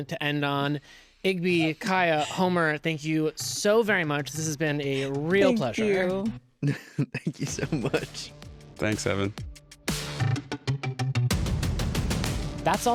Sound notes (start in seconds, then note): 6.6 laughs; 9.8 upbeat pop music